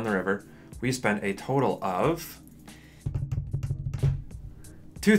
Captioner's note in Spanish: tapping en madera